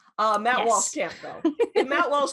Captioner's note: laughs